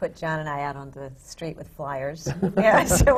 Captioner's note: laughter